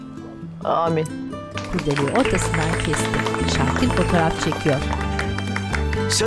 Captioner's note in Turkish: Alkış sesleri